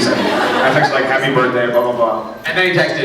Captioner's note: scattered laughs